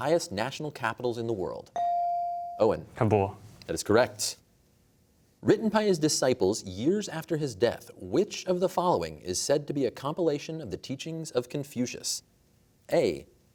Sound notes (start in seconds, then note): none